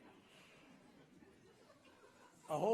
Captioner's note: laughter